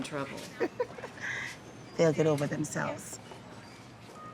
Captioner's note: laughing